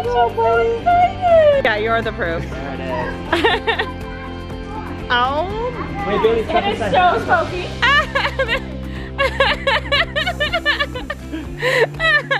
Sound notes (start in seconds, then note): 2.9 laughs; 9.1 laughs